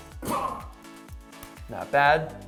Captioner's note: grunts